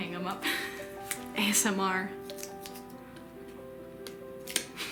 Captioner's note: tape noises